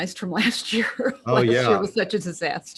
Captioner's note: laughs